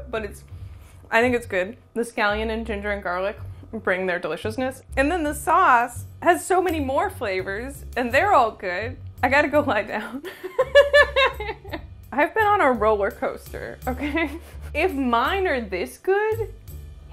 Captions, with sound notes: but I think it's good. The scallion and ginger and garlic bring their deliciousness. And then the sauce has so many more flavors and they're all good. I got to go lie down [laughs]. I've been on a roller coaster, okay? If mine are this good,